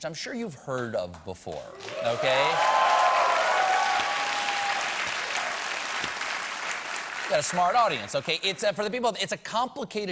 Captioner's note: applause